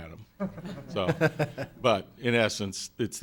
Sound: laughing

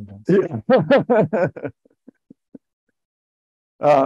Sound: laughs

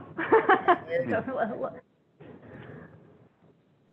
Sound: laughing

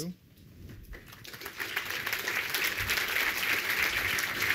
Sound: applause

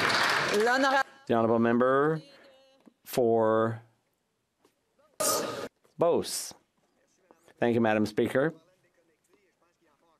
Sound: some Applause

